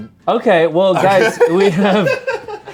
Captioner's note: laughs